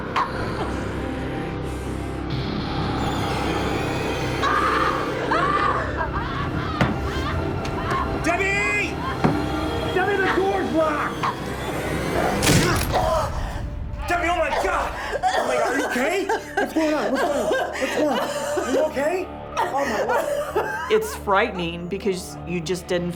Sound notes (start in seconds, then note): 4.3 screams